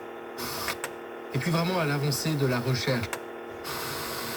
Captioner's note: the radio picks up a station!